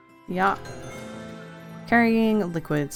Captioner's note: none